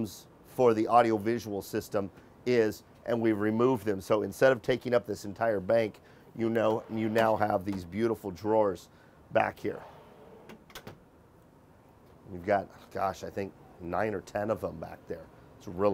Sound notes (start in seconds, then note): 6.7 drawer closing